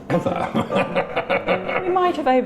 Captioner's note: laughing